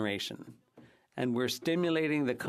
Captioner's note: speaking French